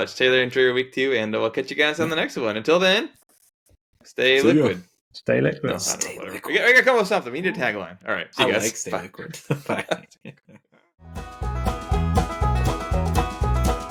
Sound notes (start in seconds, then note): 8.4 laughing; 11.2 upbeat music